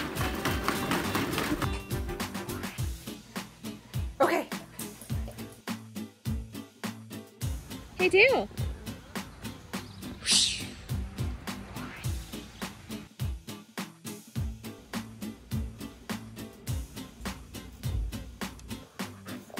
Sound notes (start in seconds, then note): 0.1 plastic thudding; 0.1 water splashing; 9.7 whistles